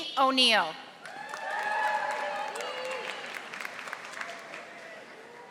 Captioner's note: audience applauding